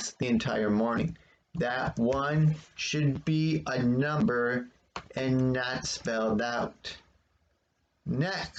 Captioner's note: tapping of the keyboard